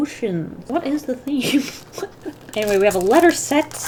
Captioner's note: laughs